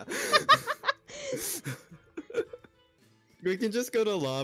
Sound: laugh

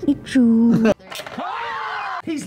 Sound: screaming

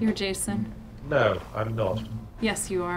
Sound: voiceover

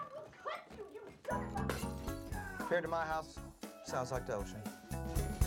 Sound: glass shatters

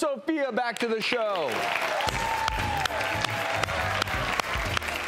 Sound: crowd cheering

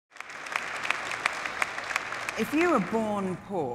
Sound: audience clapping

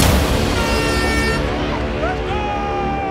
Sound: air horn blaring

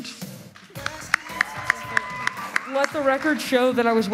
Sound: audience applauds

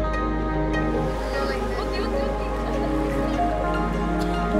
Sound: boy chattering; bright music

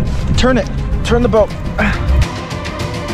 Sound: grunts with effort; dramatic music

